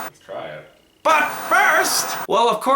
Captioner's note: static